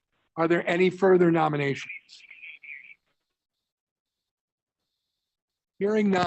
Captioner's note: A pause